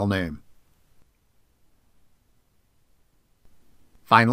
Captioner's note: silence